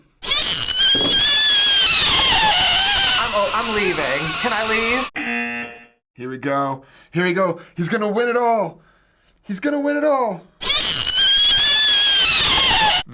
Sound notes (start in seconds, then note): 5.1 buzzer